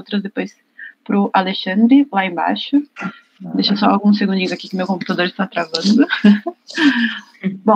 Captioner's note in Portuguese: risos